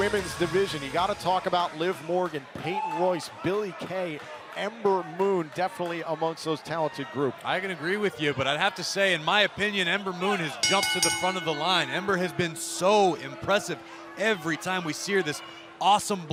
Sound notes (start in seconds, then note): 12.1 bell ringing